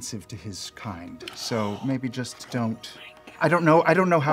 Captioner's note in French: halète